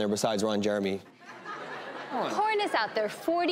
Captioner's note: laughing